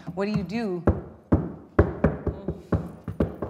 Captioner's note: tapping